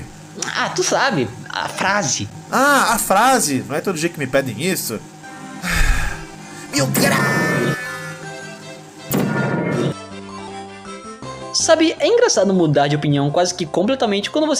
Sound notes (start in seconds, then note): 8.4 breathes